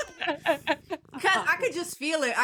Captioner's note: laughing